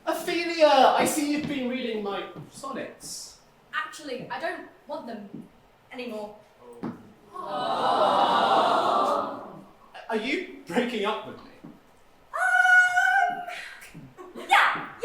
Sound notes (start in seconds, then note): 7.3 audience aww